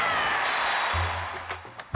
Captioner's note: crowd chatting